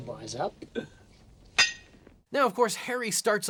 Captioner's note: bars clink